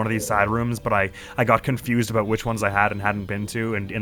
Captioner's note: none